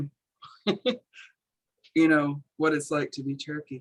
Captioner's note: chuckles